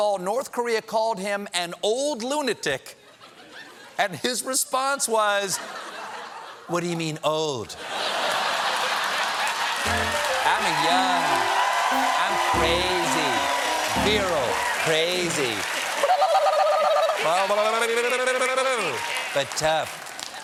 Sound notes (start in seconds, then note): 7.7 laughter; 8.2 cheers and applause; 9.8 piano riff